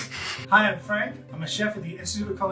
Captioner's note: laughs